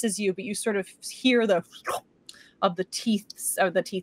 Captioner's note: Deborah slurps